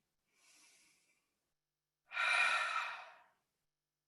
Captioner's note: inhales and exhales